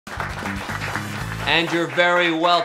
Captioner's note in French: le public applaudit